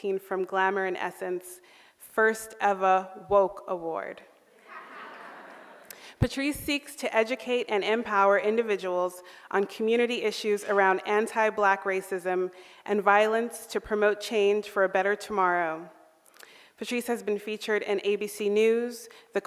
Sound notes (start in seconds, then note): 4.6 audience laughing